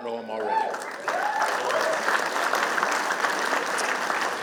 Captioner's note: applause